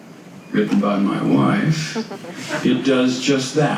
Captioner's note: audience laughs